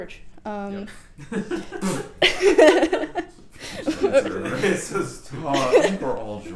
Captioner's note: laughs